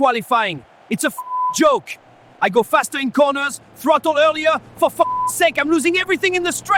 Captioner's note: beep; beep